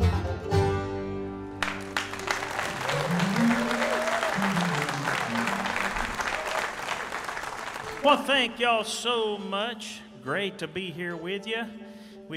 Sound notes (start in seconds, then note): 1.6 audience applauding